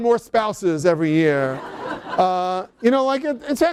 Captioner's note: laughter